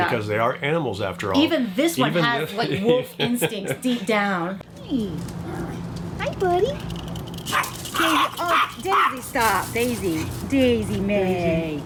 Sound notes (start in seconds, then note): 7.5 Daisy barks